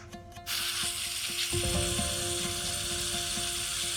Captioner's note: bright orchestra music; sucker hisses